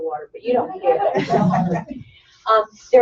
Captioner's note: laughter